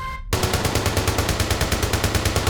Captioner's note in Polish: odgłosy strzałów